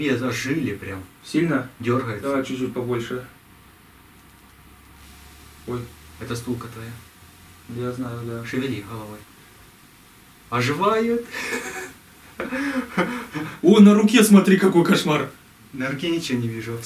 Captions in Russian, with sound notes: - Во на голове зажили прям! - Сильно? - Дёргается - Давай чуть-чуть побольше *треск тока* - Вот это стулка твоя - Я знаю, да! -Шевели головой - Оживает!!!Ха-ха-ха -О! На руке смотри какой кошмар!!! - На руке ничего не вижу абсолютно